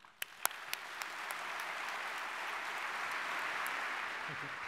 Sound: audience clapping

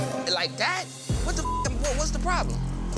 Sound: beep

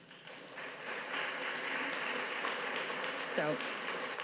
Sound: audience claps

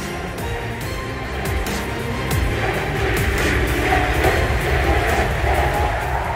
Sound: Crowd chants: EG! EG! EG!

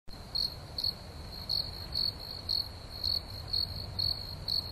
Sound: crickets chirping

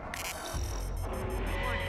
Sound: cannon beeping

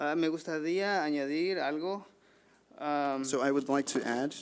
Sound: man speaking foreign language

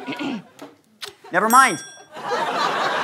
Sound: kiss

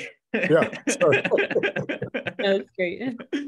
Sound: laughs

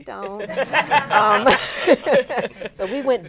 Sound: laughter

